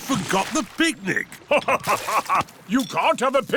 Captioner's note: laughs